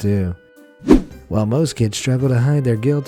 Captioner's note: air whooshing